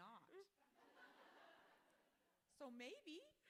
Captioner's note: audience laughing